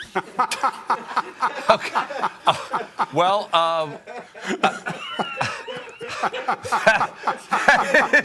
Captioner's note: laughter